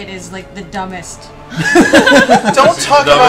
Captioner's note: laughter